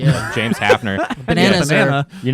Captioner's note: laughing